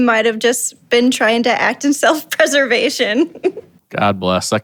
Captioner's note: chuckles